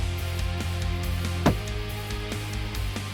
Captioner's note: gun shot